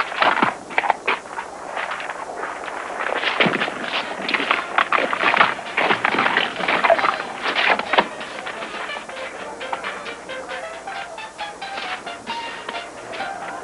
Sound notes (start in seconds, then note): 3.4 thud; 5.3 hooves clacking